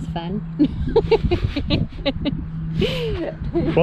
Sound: laughing

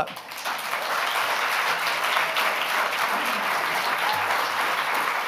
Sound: audience applauding

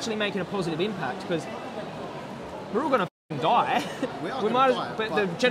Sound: chuckles

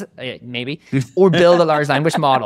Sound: laughing

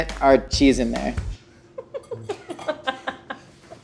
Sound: laughs

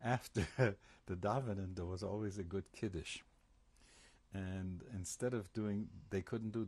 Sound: laughs

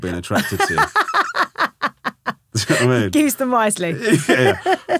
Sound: laughing

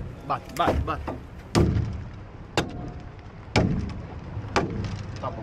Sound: local speaking Portuguese; hammer thudding

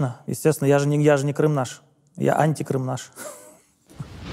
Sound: laughs

